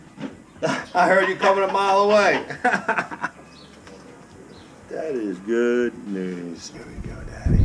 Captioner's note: laughs